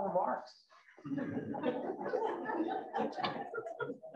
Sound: laughter

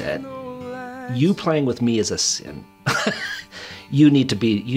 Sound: laughing

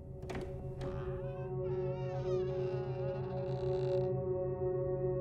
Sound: door creaks

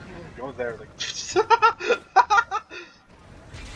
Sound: bursts out laughing

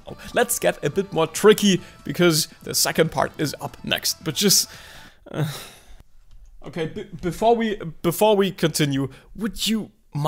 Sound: sigh

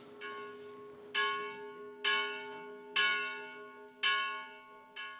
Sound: bells ringing

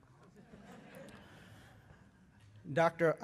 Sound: laughter

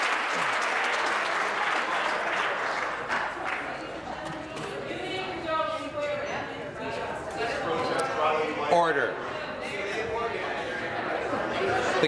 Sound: applause

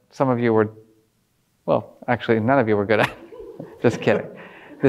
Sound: laughs

